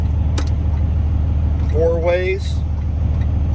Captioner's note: indicator clicks